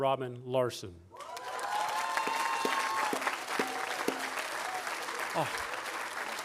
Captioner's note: audience applauding and cheering